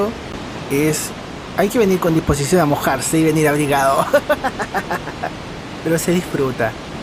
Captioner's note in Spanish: risas